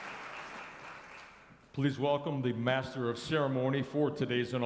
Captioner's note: applause